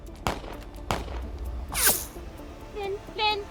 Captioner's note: gunshots blasting